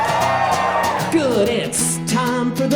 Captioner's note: audience cheering